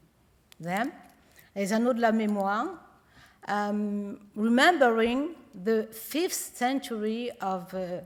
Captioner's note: french